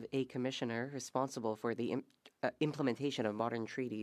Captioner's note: speaking French